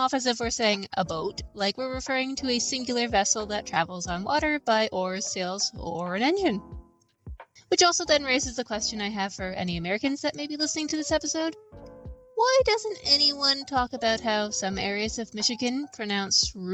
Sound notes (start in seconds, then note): none